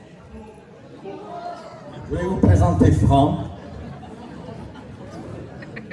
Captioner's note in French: rire